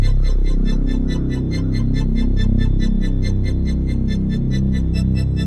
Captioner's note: birds caw in distance